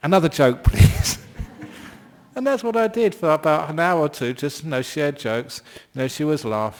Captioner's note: laughs